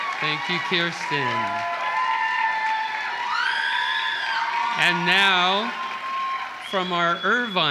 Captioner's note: applause